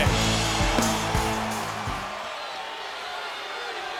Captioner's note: crowd cheering